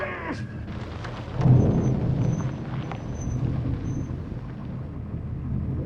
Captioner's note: Liz screaming; thunder booming